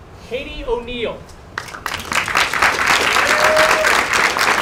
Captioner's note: applause